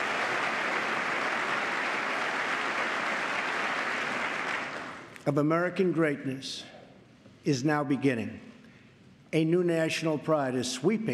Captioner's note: applause